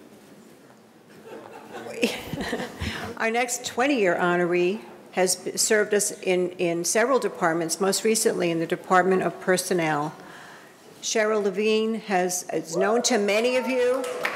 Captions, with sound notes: (audience laughing) - (laughs) Our next 20-year honoree has served us in several departments, most recently in the Department of Personnel. Cheryl Levine is known to many of you.